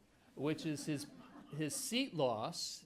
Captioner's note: attendees laughing